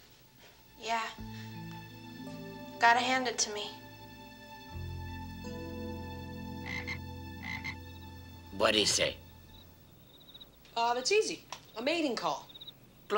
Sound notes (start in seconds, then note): 4.8 sad music; 6.2 frog croaking